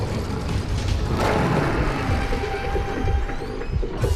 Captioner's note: roaring